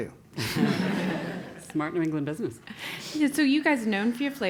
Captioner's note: laugh